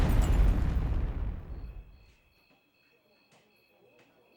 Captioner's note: crickets chirping